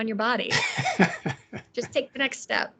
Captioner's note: laughing